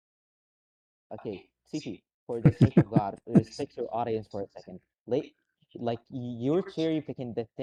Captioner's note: laughter